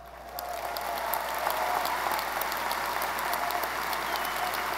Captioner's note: audience applauding